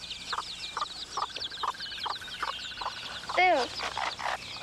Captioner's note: chickens clucking